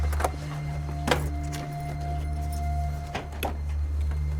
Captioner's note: key rattling